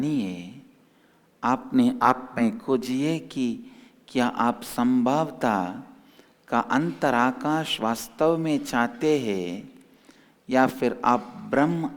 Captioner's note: hindi